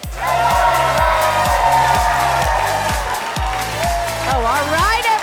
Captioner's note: participants cheering